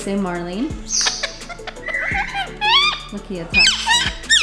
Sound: bird screeching

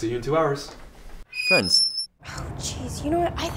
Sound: creaking sign

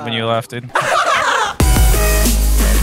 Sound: laughing; upbeat music

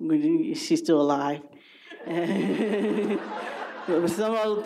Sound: laughter

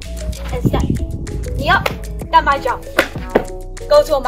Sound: slap kick

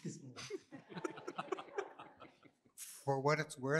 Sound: laughter

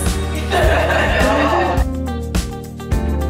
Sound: laughing

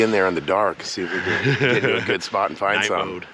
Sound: chuckling

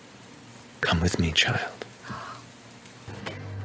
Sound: gasps

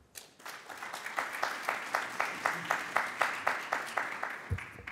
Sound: audience applauds

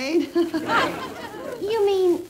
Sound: crowd laughter

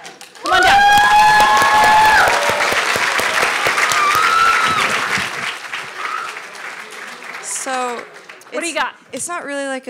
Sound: applause

